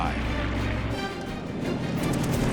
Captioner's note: rapid gunfire